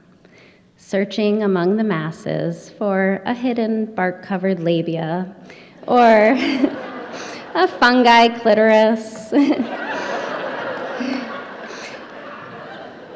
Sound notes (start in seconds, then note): 5.4 laughter; 9.1 audience laughter